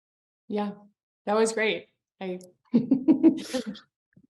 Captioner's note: laughs